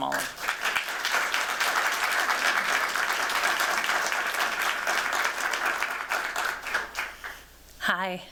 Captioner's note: clapping